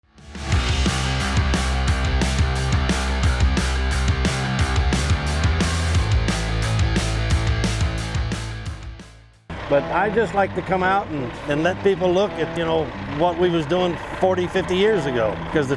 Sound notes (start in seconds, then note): 9.5 engines roar